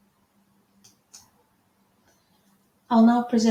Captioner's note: mouse clicking